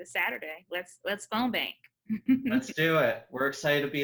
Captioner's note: giggles